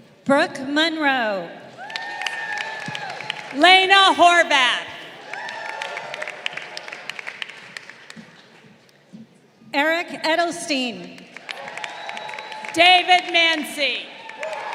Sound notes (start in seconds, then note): 1.7 crowd cheering; 5.0 crowd cheering; 11.3 crowd cheering